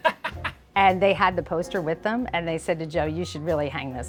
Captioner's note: laughs